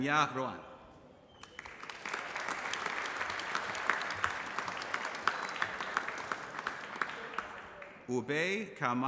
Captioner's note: applause